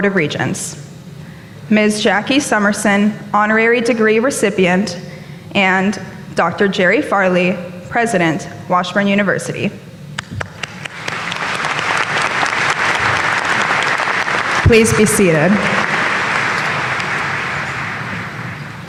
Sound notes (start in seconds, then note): 10.3 applause